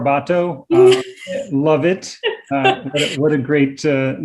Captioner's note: laughs